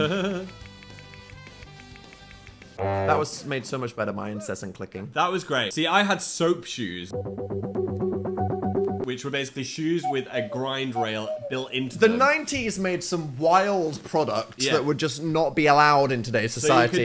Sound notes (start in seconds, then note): 0.0 laughs; 2.8 disappointing horn sounds